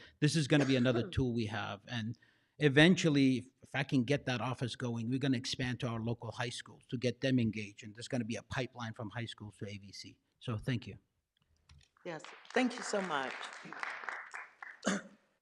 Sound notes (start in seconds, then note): 12.0 clapping